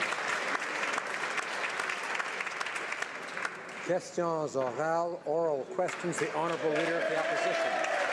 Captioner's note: some Applause